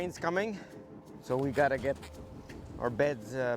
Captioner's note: voiceover